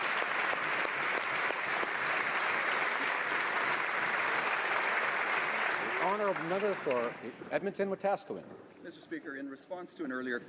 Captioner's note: applause